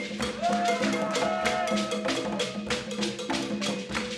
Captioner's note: people cheering